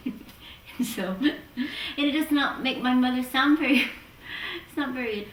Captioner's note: laughs